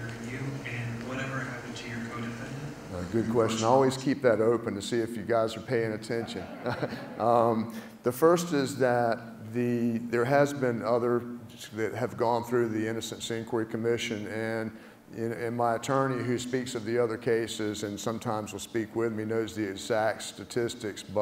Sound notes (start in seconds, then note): 6.1 laugh